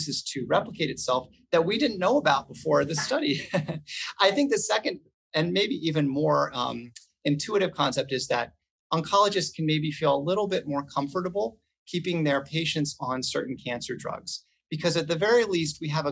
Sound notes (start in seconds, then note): 2.9 laughs